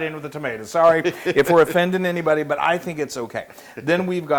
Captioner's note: laugh